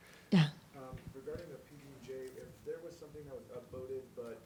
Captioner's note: voiceover